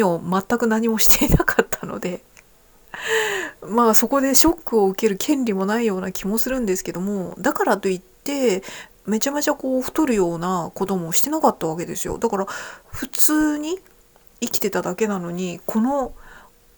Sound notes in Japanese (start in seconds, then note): 2.9 息をのむ音; 3.3 笑い